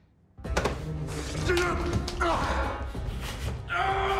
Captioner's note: tense music; grunts and groans; screams